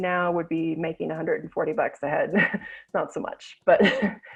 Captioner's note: chuckles